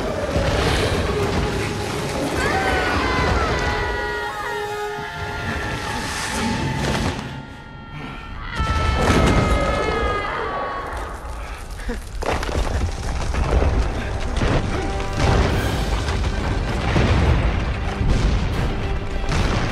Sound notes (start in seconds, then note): 2.3 scream